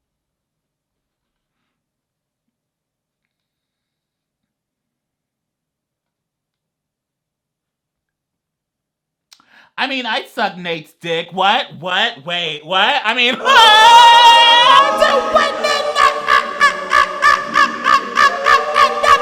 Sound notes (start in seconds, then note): 13.9 angelic choir music; 13.9 exclaiming